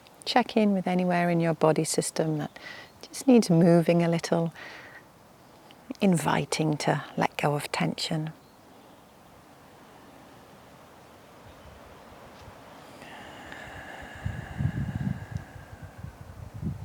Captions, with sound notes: Check in with anywhere in your body system that just needs moving a little, inviting to let go of tension. (birds chirping) (wind whooshing)